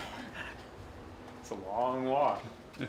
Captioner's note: laughing and heavy breathing from off-camera